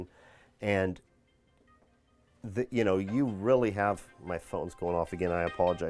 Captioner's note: phone ringing